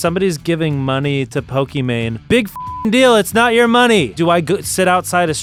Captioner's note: beep